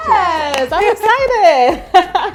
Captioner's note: hands clap